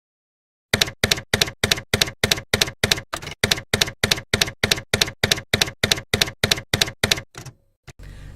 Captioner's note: typewriter keys clacking